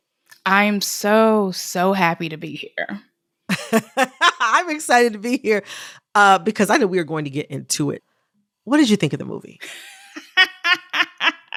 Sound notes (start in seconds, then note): 3.5 laughter